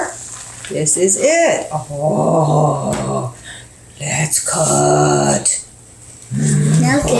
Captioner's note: In a Cookie Monster voice